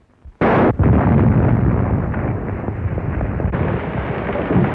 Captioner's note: explosion; gunshot